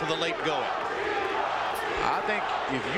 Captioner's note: crowd chanting "chico"